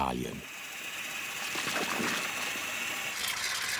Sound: hissing, bubbling

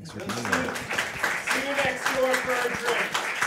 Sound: all applauding

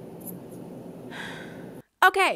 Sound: sigh

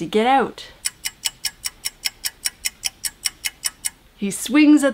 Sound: clock ticking

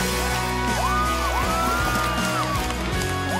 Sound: cheering

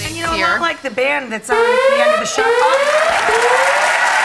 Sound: siren blaring; audience applauding

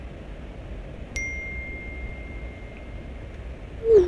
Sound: text message tone

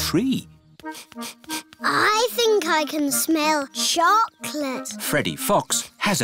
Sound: sniffs

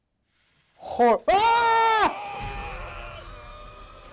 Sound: the ghost is roaring

